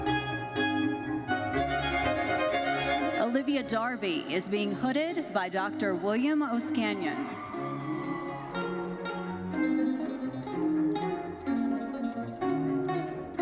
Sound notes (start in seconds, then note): 0.0 lively classical music continues; 6.7 audience cheering; 9.0 lively classical music continues